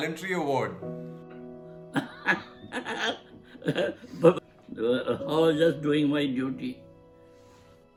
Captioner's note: laughs